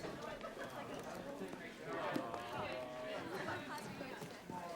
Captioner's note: students chattering